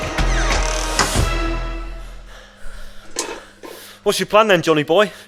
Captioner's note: door slams, heavy breathing